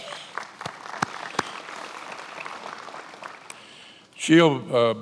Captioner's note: attendees applauding